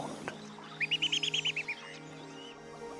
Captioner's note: chirping